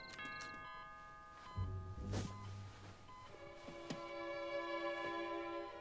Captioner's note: doorbell rings; medical equipment beeping